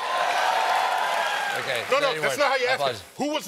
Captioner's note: cheers and applause